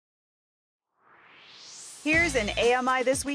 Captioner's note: swoosh